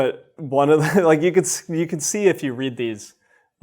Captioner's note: chuckles